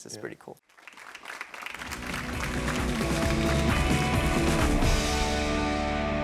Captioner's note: audience clapping; upbeat music